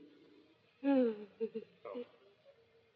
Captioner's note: sobs